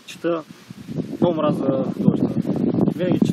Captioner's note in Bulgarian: чува се вятър